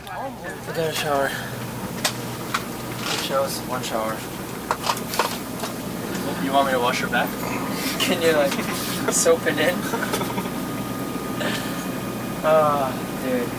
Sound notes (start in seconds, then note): 7.4 laughing